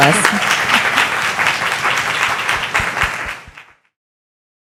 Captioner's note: audience applauding